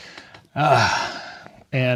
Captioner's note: groans